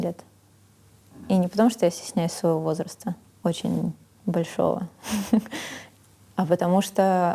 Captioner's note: laughs